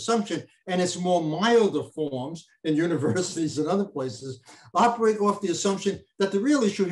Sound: chuckles

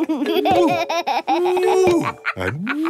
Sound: laughs

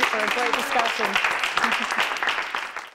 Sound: clapping

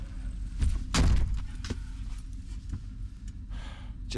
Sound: door slams louder

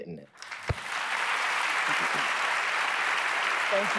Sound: applause

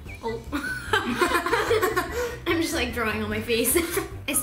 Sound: laughter

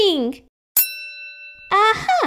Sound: ding!

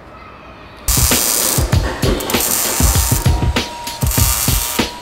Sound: sparks buzzing

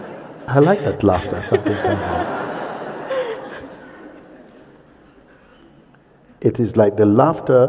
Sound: sangha laughs

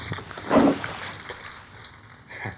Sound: drinks splashing

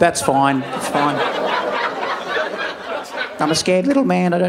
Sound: audience laughing

